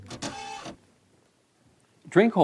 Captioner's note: machine whirring